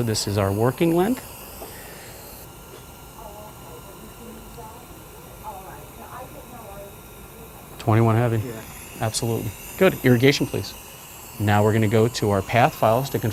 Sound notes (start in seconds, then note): 3.0 muffled chatter in background